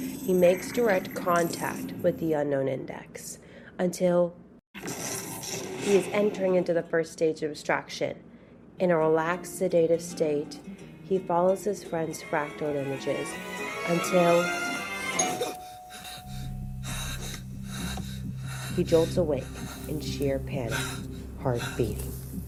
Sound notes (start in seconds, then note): 6.7 chemical explosion; 15.1 ding dong; 15.4 panting